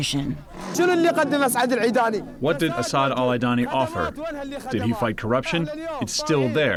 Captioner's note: through translator